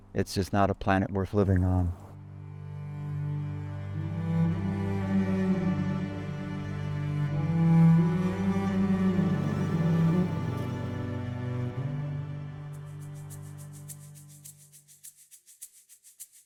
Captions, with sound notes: It's just not a planet worth living on. (slow string music) (bee buzzing) (maraca shaking)